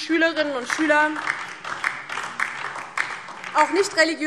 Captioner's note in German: Beifall DIE LINKE